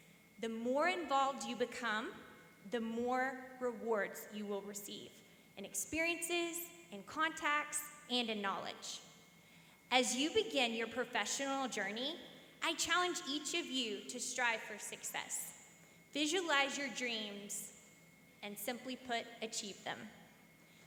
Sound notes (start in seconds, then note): none